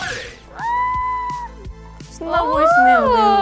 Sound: A nervous shout!

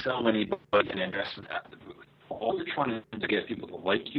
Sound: static

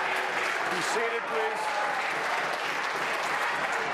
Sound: applause

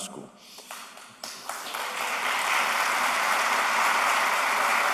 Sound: applause

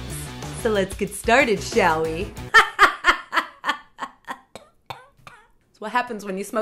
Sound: cough cough cough

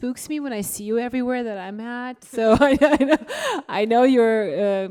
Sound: laughs

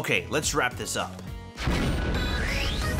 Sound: explosion

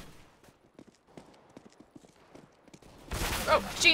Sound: footsteps; enemy firing

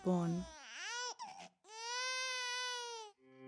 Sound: baby crying

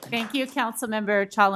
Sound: applause

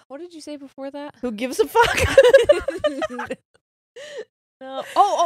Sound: both laughing

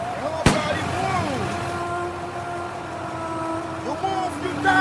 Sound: gun fires

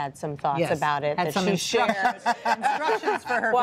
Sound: laughter

